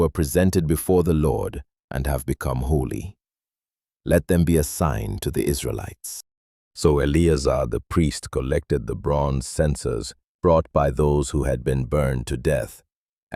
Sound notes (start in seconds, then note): 3.2 thoughtful